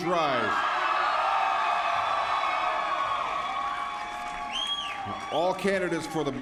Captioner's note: applause